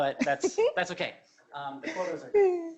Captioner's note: laughing